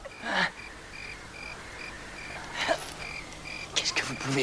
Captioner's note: grunts